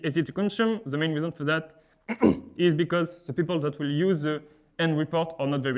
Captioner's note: clears throat